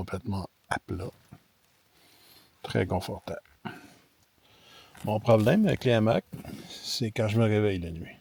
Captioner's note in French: raclement de gorge